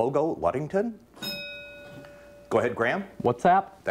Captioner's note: bell rings